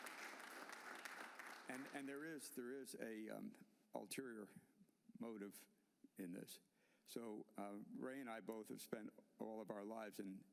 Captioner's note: applause